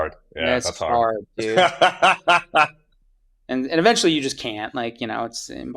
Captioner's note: <Laugh>